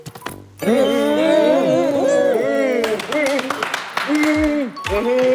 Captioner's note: everyone gets excited and make sounds of approval